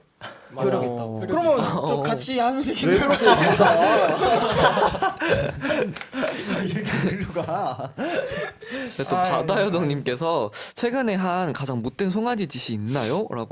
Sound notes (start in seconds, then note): 2.8 tertawa